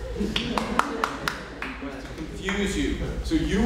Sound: clapping

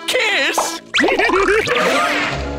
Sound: giggling

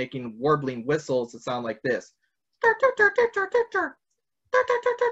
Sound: vocalizes

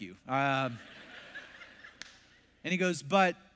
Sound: congregation laughs

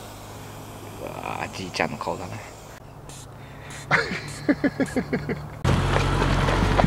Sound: laughing

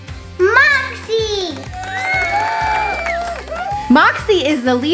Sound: audience cheering, clapping, whistling

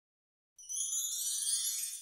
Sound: chimes

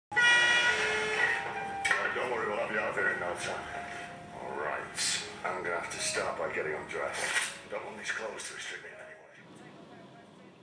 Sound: sounds of advert

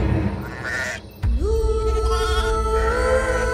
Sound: goats bleating

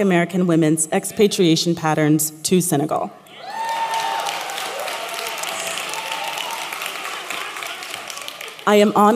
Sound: applause

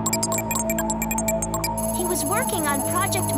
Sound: beeping

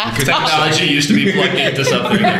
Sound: laughter

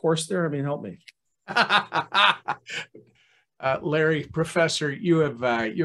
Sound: laughs

